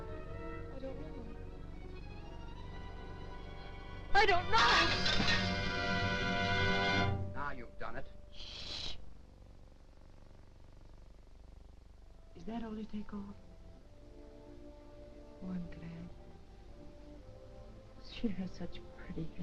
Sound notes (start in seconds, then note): 4.6 ceramic shattering; 4.8 metal clattering; 8.6 somber music